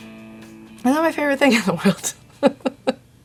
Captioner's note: laughs